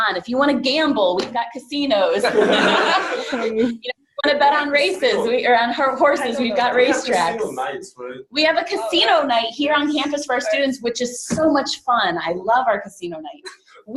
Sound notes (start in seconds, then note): 2.2 laughing